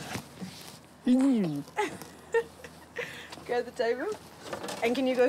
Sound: chuckles

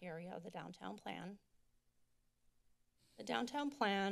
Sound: silence

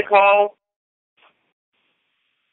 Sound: silence

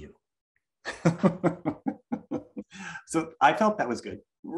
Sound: laughs

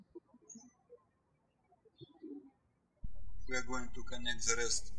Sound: birds chirping

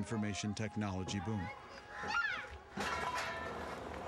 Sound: metal banging

